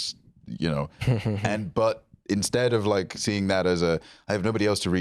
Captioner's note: chuckles